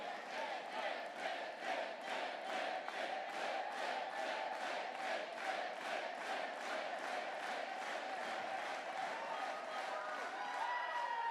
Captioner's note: chants